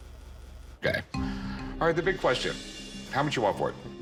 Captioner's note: none